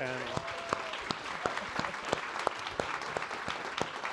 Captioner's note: audience applauding